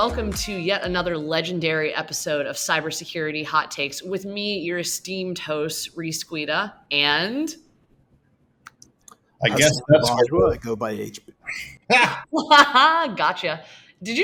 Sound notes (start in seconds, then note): 11.4 lauhing